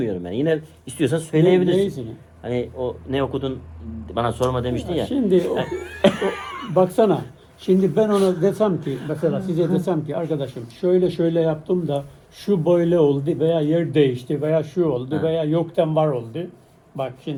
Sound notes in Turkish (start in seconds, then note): 5.3 kahkaha